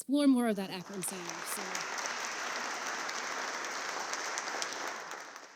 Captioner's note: audience clapping